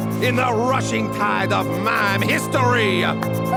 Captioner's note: laughing